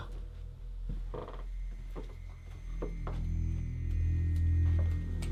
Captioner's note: floor creaking